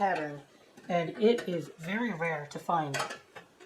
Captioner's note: clunk